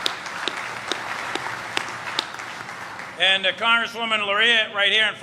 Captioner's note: applause